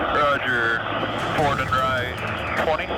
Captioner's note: man On Radio